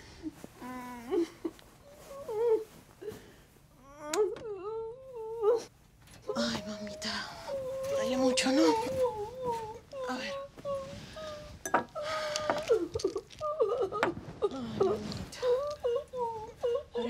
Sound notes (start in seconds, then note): 0.8 crying